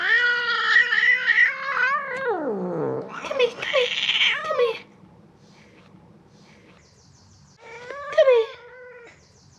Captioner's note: hissing, growling